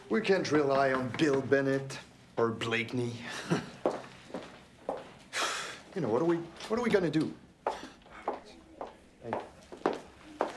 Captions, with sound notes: - We can't rely on Bill Bennett or Blakeney. (laughs) (heels clack) (scoffs) You know, what are we, what are we gonna do?